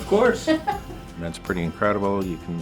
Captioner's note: laughing